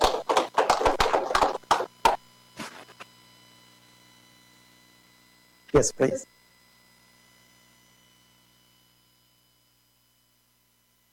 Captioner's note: applause